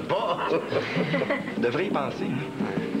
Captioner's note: Rires